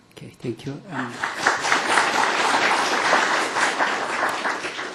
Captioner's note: applause